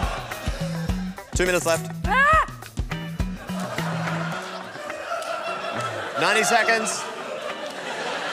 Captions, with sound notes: Two minutes left. (WOMAN SHRIEKS) 90 seconds.